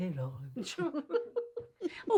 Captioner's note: Charlotte and Betty laughing